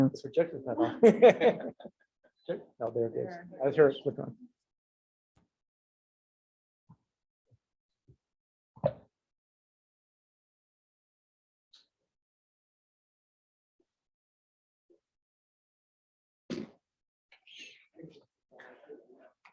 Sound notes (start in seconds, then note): 0.8 laughs